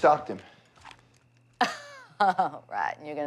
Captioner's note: laughs